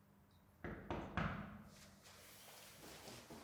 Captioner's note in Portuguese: batida na porta